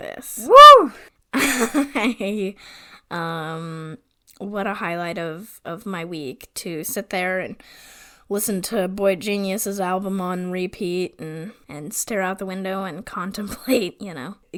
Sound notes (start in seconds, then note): 2.2 laughs